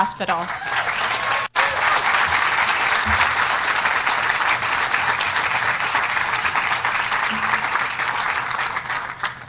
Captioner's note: applause